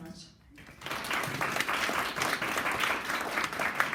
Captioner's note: clapping